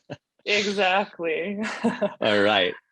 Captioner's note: laughs